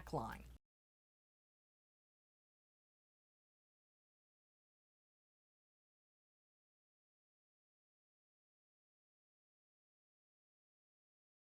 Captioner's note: no Sound Present